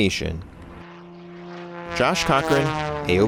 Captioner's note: plane engine